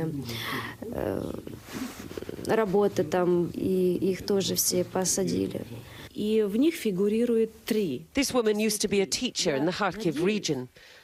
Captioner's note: speaking foreign language